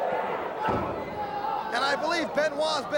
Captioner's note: crowd chatter